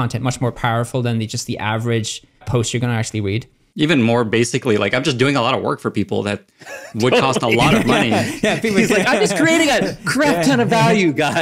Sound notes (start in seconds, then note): 6.6 all laugh